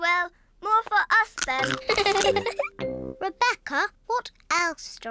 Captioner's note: giggles